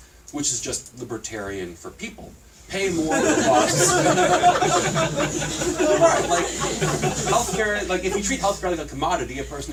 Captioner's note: laughter